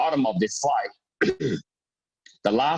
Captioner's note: clears throat